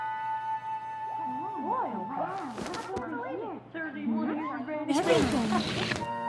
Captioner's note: indistinct chatter